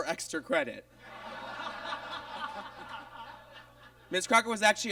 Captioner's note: audience laughs